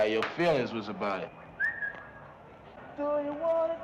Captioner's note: whistling